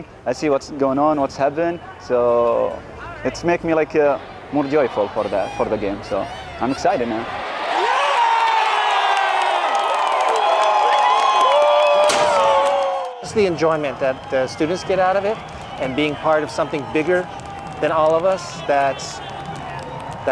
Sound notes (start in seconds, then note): 7.6 crowd cheering